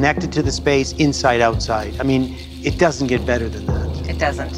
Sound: speaks in cree language

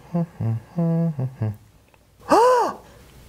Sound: humming; gasp!

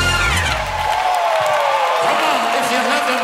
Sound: audience cheering

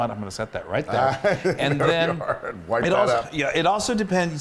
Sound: laugh

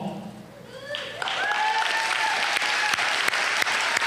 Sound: applause

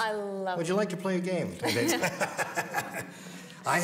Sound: laughs

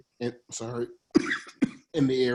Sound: coughs

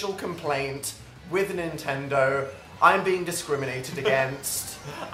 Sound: laughs

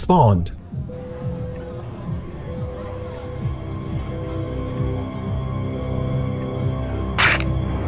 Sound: beeping; crunch

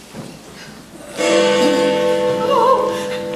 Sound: Big Ben tolls

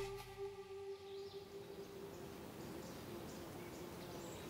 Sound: birds chirp

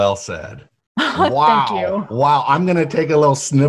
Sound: laughs

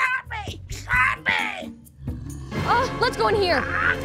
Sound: squawks; growls

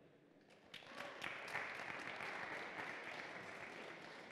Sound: applause

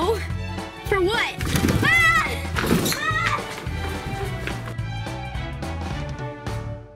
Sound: screams

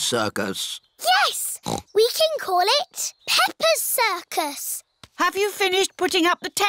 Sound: snorts

